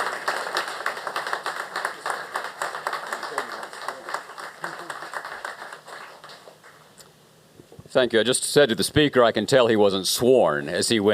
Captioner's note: applause